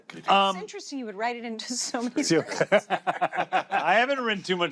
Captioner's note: laughter